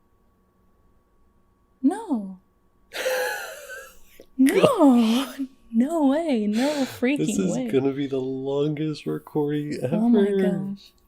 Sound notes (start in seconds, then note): 2.9 laughs